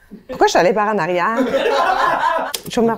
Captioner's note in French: rires